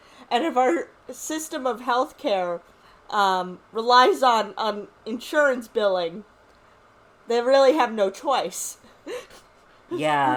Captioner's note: giggles